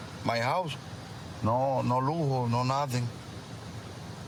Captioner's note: speaking spanish